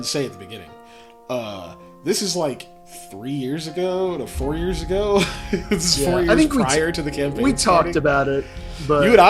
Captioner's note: laughs